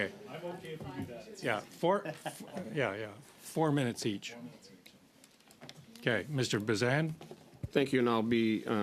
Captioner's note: laughter